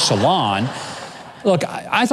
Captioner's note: audience laughs